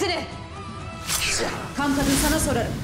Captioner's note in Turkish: Kılıç Sesi